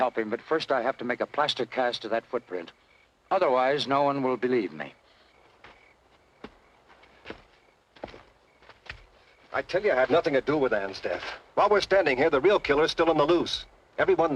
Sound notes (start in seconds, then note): 5.4 crickets chirping